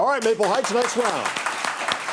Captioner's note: audience applauding